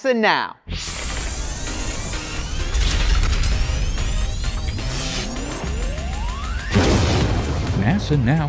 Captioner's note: sound Effects